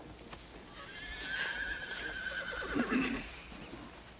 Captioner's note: horse neighing